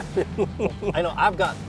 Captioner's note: laughter